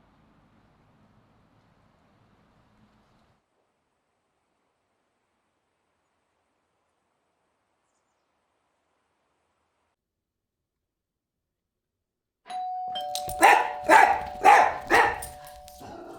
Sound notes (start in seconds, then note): 12.5 doorbell; 13.1 barking